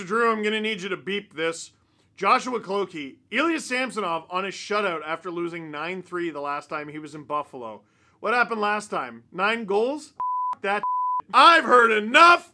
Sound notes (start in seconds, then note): 10.2 beep